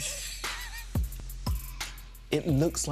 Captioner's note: laughs